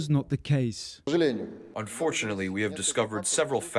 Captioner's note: through translator